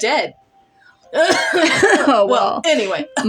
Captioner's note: both Clear Throats